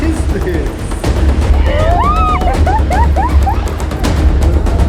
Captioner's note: more intense wailing